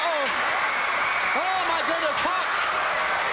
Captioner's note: crowd screams